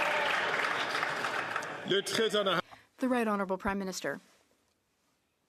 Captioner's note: applause